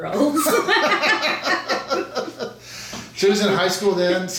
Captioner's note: both laughing